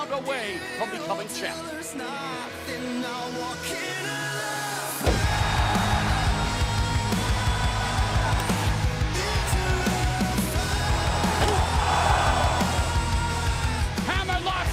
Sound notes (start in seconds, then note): 3.1 crowd cheering